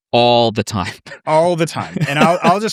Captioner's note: laughing